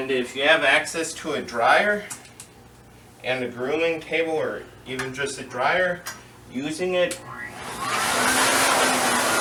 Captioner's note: blows air from dryer on dog